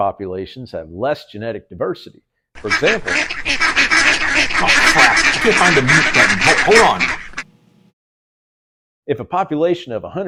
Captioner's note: quacks